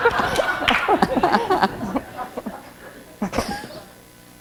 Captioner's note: laughter